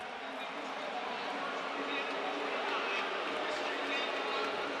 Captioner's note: booing